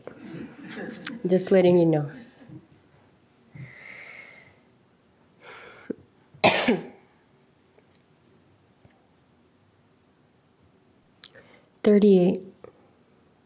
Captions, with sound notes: but just letting you know. (coughs) "38.